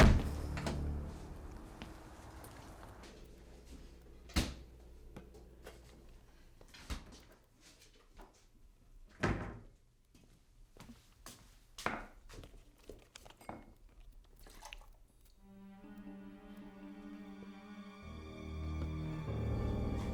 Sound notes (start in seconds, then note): 0.0 door thuds; 4.6 doors thudding closed; 14.6 milk sploshes; 15.4 dark tense music